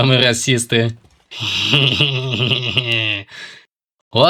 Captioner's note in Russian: Гоблинский смех